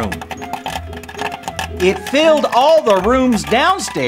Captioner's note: popcorn pops